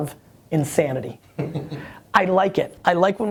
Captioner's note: laughter